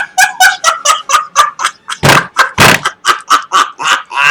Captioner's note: laughs